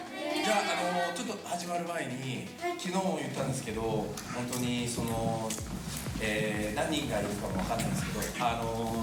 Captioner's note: speaking Japanese